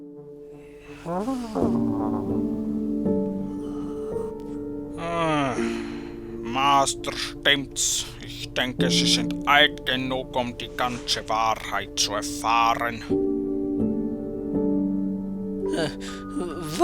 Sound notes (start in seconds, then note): 5.0 sigh